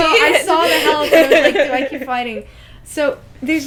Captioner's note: laughter